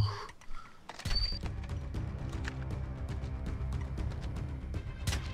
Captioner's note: snipers gunshots